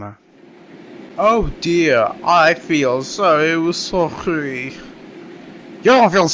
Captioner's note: Sarcastic